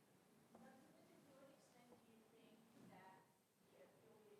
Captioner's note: voiceover